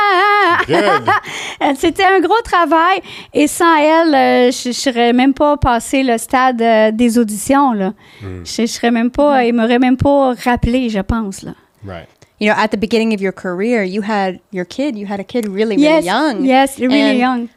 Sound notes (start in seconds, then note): 0.0 in french; 1.8 in french